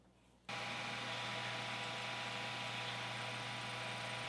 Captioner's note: machine whirring